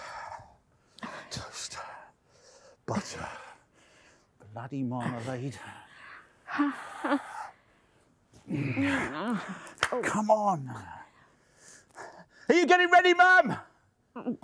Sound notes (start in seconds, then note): 6.3 whimpering softly